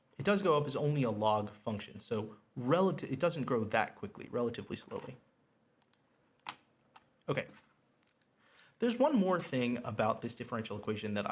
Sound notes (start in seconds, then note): 5.8 mouse clicks